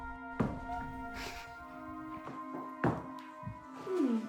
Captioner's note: crying; dramatic music